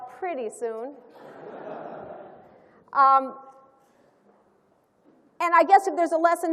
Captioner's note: laughter